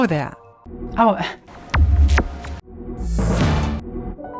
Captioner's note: gentle shwoop